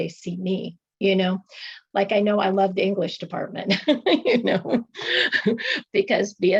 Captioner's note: laughter